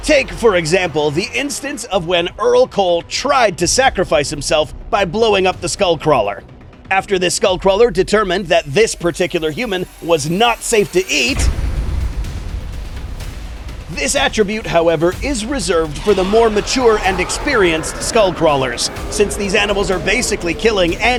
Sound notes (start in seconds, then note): 12.4 boom